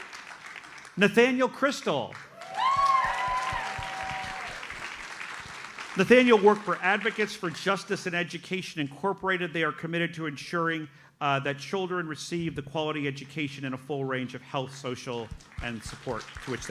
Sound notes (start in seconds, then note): 2.1 audience cheers and applauds